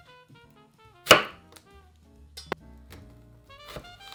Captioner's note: knife chopping an onion